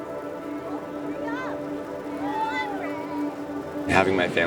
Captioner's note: slow dramatic music; background cheering